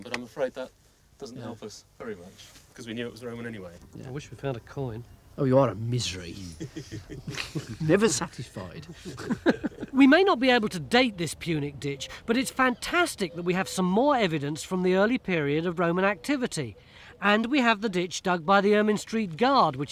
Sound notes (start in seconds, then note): 9.2 laughing